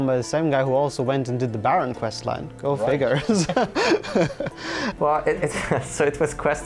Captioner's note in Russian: смеется